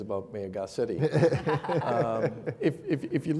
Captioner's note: laughing